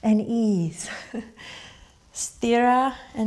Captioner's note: laughs